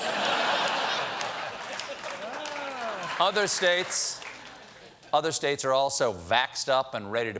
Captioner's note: laughter